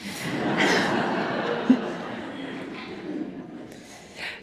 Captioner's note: audience laughing